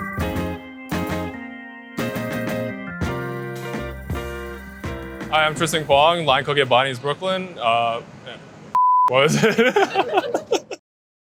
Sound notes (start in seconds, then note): 0.0 upbeat music; 9.2 everyone laughing